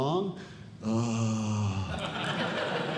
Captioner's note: sighs; audience Laughing